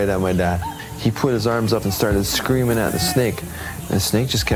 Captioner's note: shouting